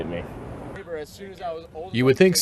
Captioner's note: players chatting